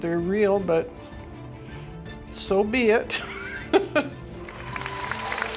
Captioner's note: laughing